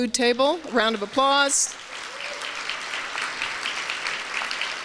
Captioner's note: applause; applause continues